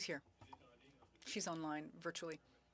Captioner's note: speaking French